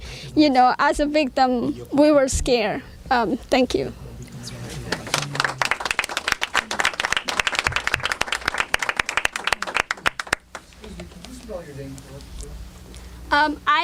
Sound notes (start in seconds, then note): 7.4 clapping